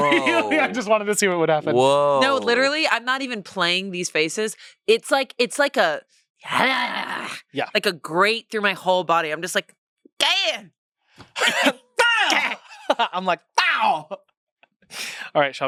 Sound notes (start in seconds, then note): 6.6 grumbles; 11.3 gags; 12.9 makes sound effects; 14.9 laughs